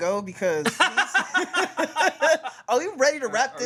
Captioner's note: everyone laughs